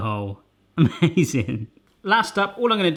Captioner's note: laughing